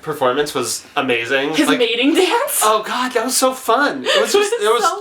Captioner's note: laughs